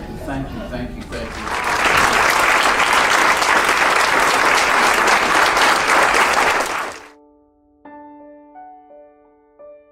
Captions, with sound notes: Thank you, thank you, thank you. (applauding) (gentle music)